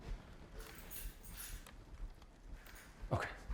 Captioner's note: keys jangling